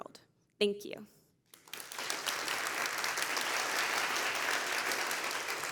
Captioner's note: applause